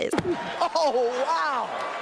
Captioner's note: fist thwacks